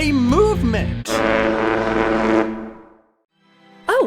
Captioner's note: horn